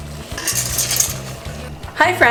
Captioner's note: crashing